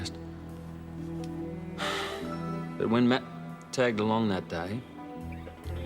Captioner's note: sighs